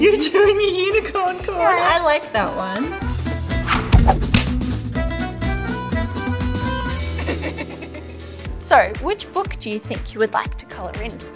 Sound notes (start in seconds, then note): 3.0 lively upbeat music; 7.1 laughing